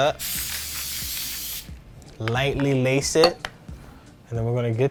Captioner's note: spraying can